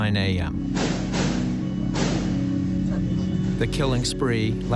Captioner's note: gunshots bang